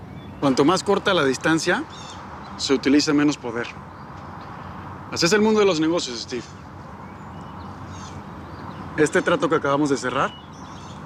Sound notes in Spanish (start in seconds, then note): none